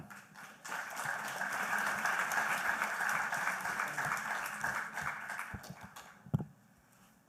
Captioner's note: applause